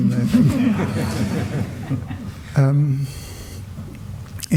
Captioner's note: laughter